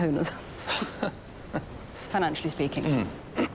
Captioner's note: laughing